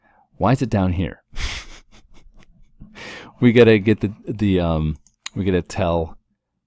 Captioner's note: laugh